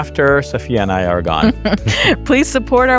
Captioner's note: chuckles